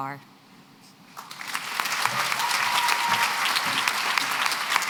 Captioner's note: applause